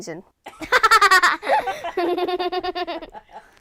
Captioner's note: laughs